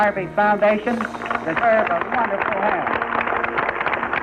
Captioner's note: applause